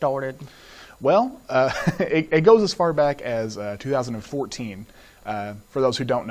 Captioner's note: laughs